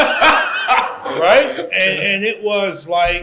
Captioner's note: laughter